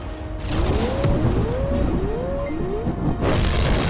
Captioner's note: alarm blaring; ship booming; debris booming